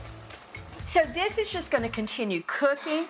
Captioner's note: steam hissing